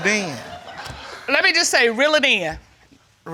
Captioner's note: audience laughing